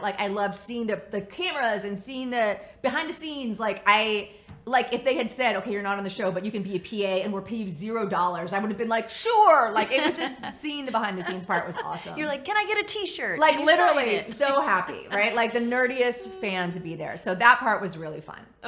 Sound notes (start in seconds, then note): 9.7 laughs